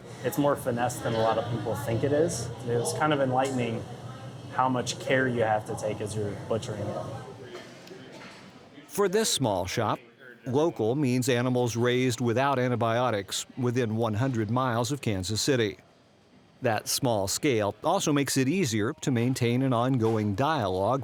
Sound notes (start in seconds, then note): 9.1 voiceover